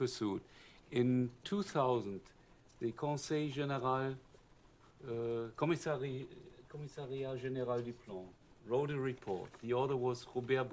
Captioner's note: french